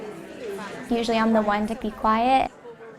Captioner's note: crowd conversing